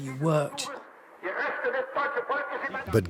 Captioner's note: broadcast in German plays over the radio